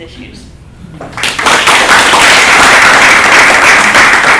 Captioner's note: applause